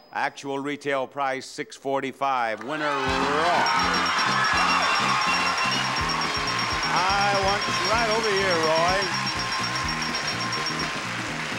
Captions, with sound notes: Actual retail price, 645. Winner is Roy. (bell chiming) (audience applauding) I want you right over here Roy.